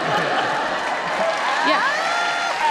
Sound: audience laughs

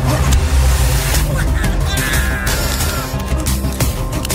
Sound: Sela grunting

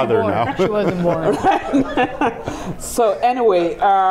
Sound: laughing

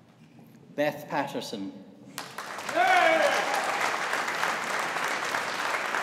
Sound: audience applauding

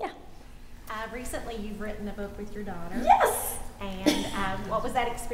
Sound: giggling

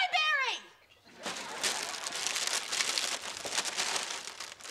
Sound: bag crackling

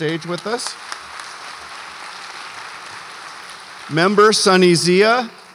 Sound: audience applauds

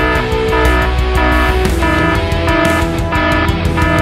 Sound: sound - anti-sleep alarm blaring

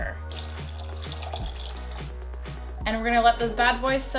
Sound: water pouring

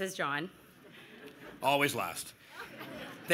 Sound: laughter

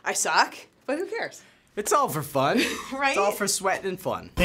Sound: laughing

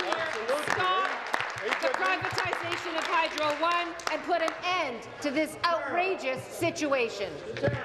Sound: applause

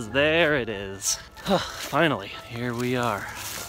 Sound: sigh

